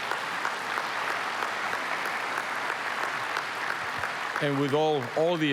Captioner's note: applause